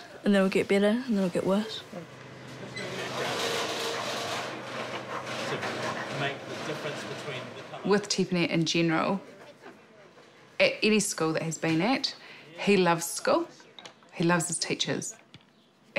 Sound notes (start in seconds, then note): 2.4 metal scrapes loudly